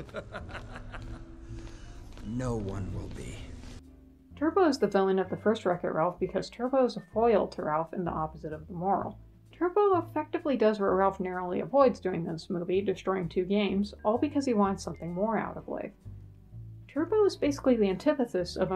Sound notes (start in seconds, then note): 0.0 laughs